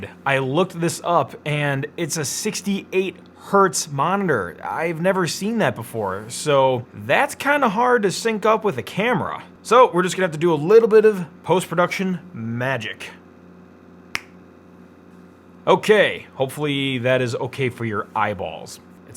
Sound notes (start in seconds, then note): 14.1 fingers snapping